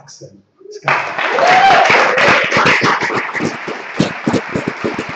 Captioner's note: applause